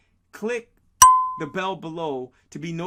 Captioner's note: bell clicking